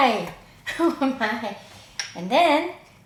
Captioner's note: laughs